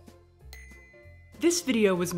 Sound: bell chiming

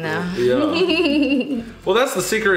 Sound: laughing

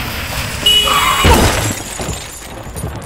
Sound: car horn; crash

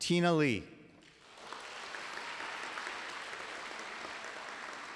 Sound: applause

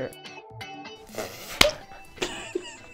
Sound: hands slap; both laugh

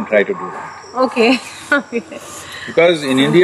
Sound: laughs

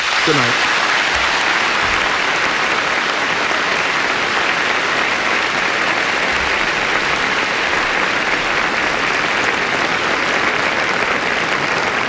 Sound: applause

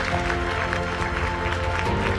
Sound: applause

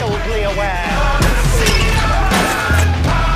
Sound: smashing and yelling

